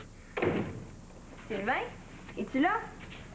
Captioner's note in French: Claquement de porte